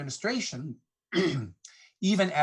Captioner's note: clears throat